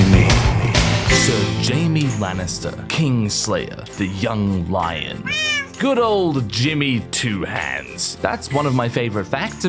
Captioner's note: meow